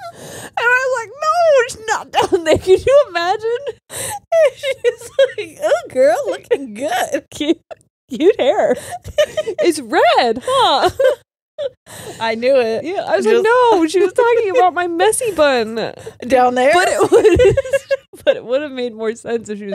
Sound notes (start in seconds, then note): 9.0 all laughing; 16.6 all laughing